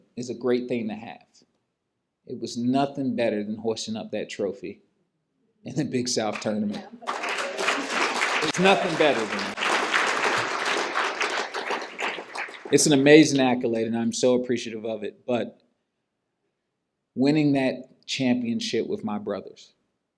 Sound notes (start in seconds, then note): 6.3 applause; 10.1 applause continues